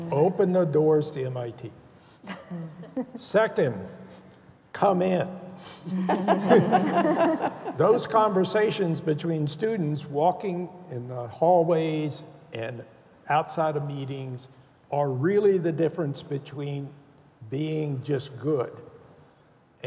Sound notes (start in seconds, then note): 5.9 laughter